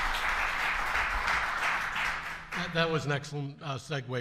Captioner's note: applause